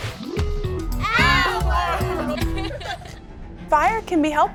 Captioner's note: laughter